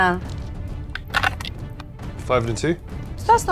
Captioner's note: dice rattling